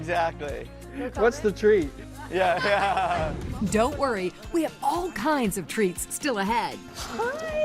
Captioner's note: laughter